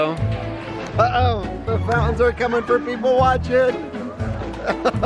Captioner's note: laughs